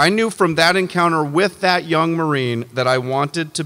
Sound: none

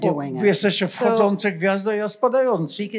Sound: foreign language

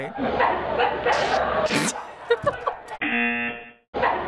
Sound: farting noise; snorts and giggles; rejection buzzer

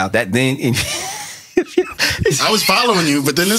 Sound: laughs

